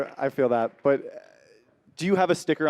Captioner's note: applause